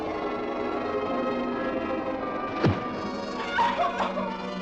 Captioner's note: Bárbara chorando